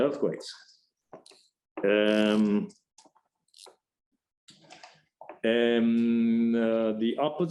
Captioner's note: silence